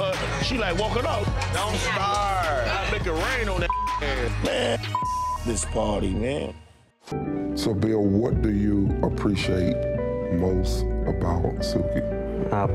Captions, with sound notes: I'm trying to say hi to her, she's like walking off. - Don't start. - I'll make it rain on that (beep) head. Man, (beep) this party, man. - So Bill, what do you appreciate most about Suki?